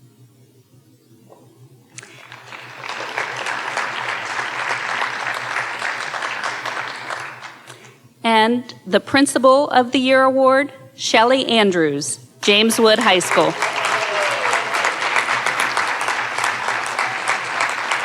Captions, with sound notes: (audience applauding) And the Principal of the Year Award, Shelly Andrews, James Wood High School. (audience cheering and applauding)